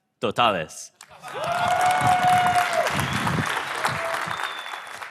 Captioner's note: crowd cheering